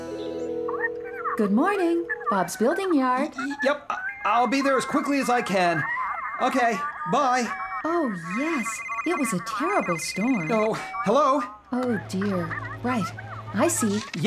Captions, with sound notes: ( Customer Chattering on Phone ) GOOD MORNING, BOB'S BUILDING YARD. YEP, I'LL BE THERE AS QUICKLY AS I CAN. OKAY, BYE. OH, YES, IT WAS A TERRIBLE STORM! OH, HELLO. OH, DEAR, RIGHT. I SEE.